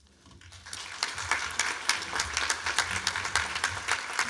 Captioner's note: applause